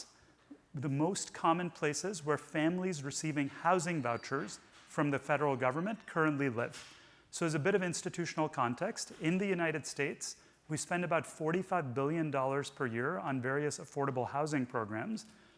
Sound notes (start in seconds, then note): none